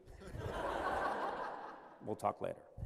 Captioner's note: laughter